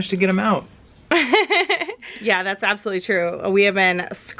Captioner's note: laughs